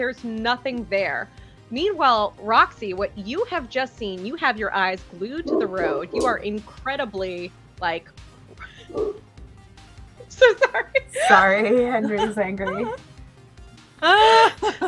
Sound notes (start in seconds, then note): 8.8 dog barking; 10.3 laughter